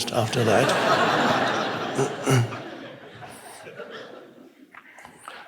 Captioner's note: congregation laughs